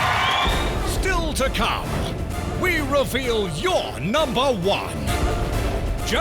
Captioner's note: voiceover